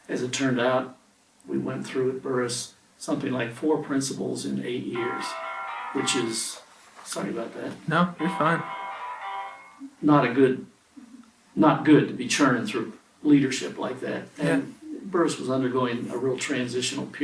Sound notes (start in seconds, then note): 5.5 phone rings